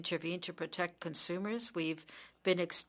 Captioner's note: speaking French